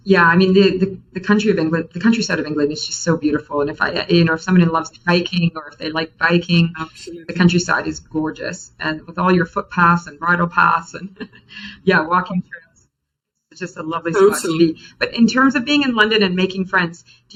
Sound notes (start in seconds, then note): 11.2 laughs; 14.5 faintly speaks